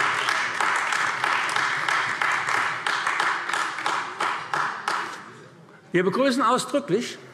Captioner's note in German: Beifall AfD